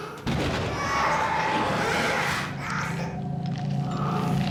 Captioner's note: thunder & Babys crying; limbs skittering on wooden floor